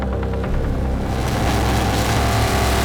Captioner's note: car engine revving